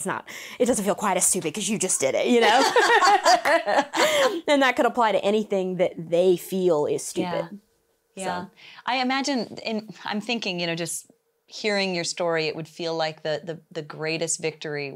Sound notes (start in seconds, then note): 2.3 both laugh